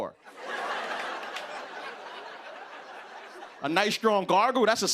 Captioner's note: laughter